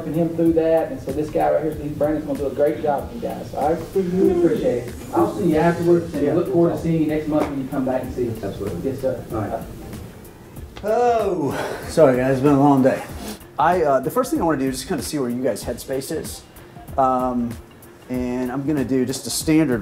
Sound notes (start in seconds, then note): none